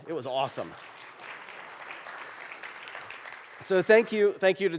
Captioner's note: applause